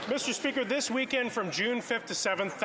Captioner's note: applause